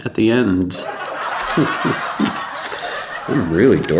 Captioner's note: audience laughing